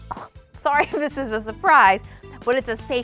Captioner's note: laughs